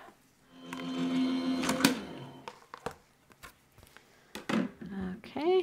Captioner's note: machine whirring